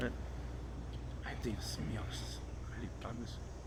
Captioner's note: non-english speech